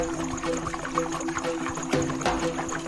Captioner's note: water mixing